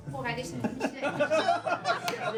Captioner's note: laughs